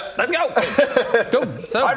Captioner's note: surprised laugh